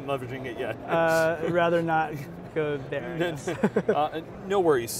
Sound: laughs

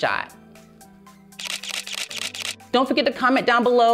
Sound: camera shutter clicking

